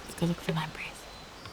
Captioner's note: whispers